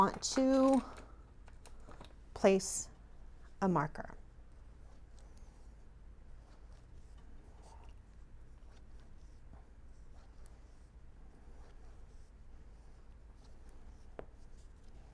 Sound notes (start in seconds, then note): 6.7 silence